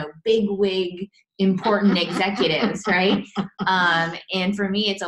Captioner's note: laughs